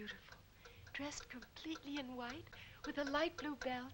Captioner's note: clock ticking